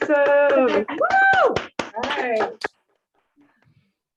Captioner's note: applause